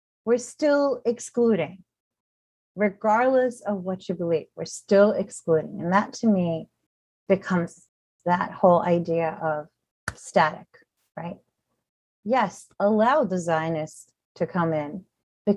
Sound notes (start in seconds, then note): 10.8 softly claps